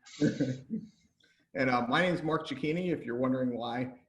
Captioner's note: laughs